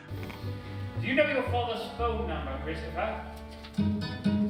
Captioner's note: background Speech